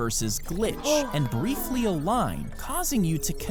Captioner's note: gasps